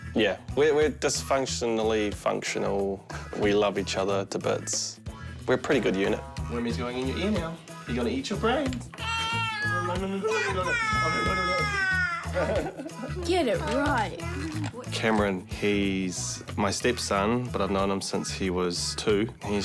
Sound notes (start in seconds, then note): 3.2 chuckles; 12.2 laughs